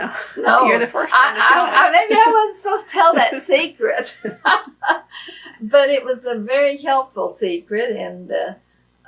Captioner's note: laughs